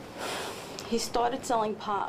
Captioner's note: sighing